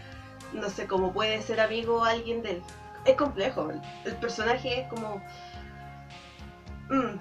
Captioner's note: argg